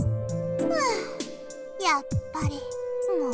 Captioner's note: sigh